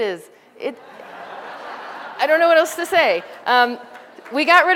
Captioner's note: laughter